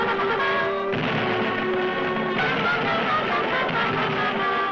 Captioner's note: rocks thudding